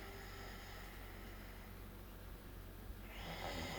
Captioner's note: Lex snores